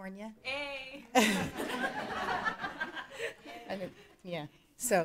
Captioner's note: laughing